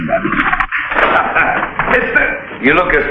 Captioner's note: barber chuckles